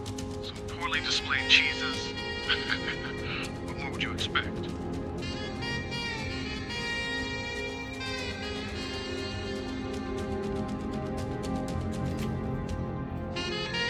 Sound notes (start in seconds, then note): 2.3 chuckles; 5.3 jazz music